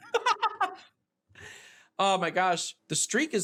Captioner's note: laughing